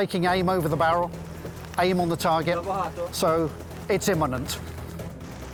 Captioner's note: speaks Ukrainian